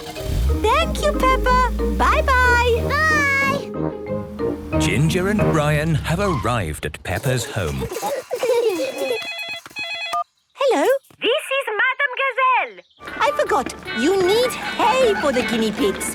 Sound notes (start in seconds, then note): 7.2 giggling; 8.8 phone ringing